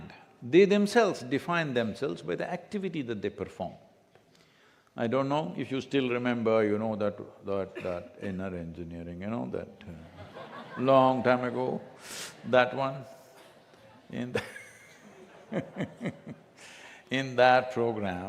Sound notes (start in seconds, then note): 10.8 laughter; 13.6 laughs